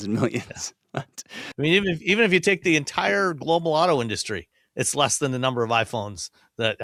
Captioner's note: chuckles